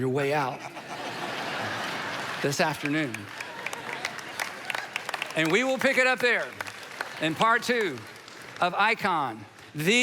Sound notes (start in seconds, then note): 3.5 audience laughs